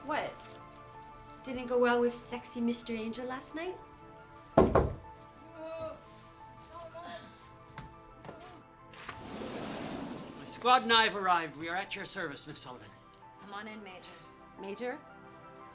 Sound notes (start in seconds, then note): 4.6 knock on door